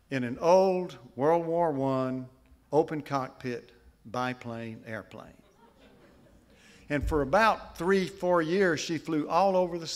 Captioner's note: laughter